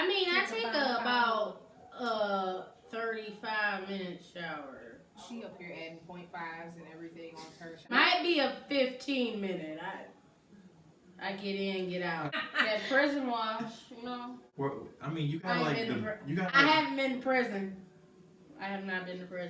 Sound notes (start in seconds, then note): 12.2 laughs